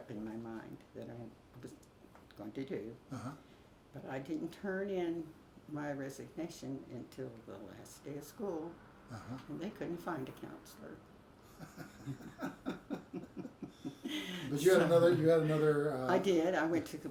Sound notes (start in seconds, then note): 11.5 both laugh